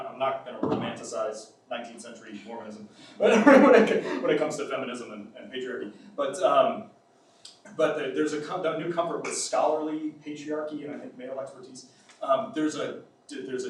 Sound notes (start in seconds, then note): 3.2 laughs